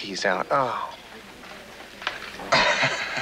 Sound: laughs

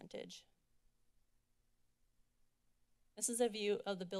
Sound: silence

